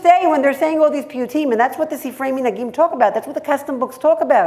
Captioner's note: hebrew